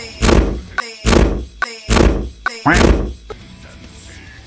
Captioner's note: loud noise